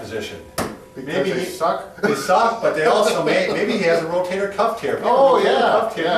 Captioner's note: laughing